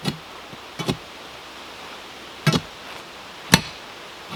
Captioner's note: tool thumping